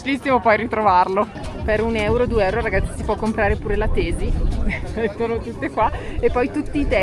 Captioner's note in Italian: risate